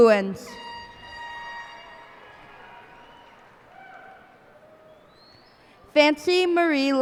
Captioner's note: cheers and applause